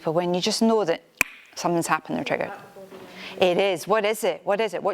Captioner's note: finger snap